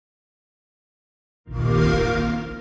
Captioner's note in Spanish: Sonido Xbox